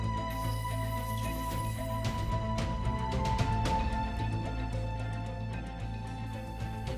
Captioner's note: suspenseful music continues; tool whizzing